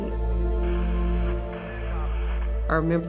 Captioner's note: radio chattering